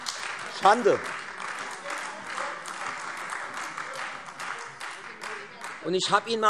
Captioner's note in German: Beifall Freie Demokraten und AfD - Zuruf SPD